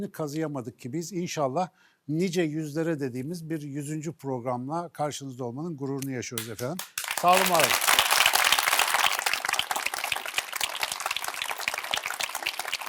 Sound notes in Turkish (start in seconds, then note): 9.8 alkış